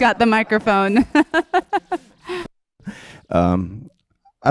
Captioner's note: laughs